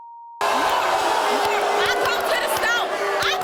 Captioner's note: audience booing